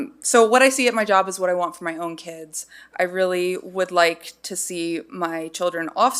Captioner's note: none